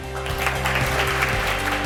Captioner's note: applause